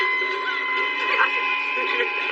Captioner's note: cryrying